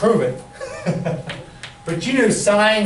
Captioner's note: laughing